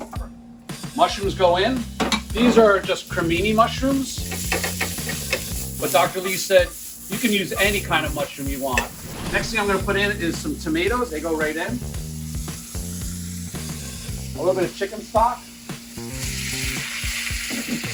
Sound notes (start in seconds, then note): 12.3 sizzling; 15.5 sizzling